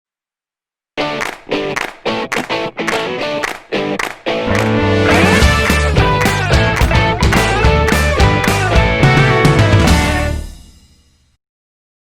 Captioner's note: claps